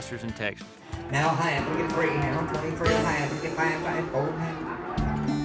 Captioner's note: auctioneer speaking